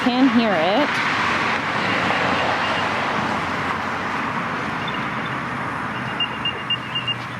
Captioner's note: Music-AirTag Noise